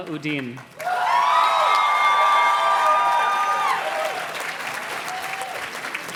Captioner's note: audience cheers and claps